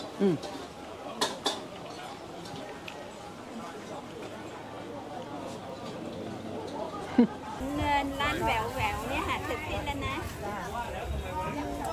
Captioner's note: market Sounds